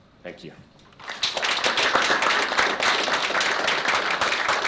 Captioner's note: applause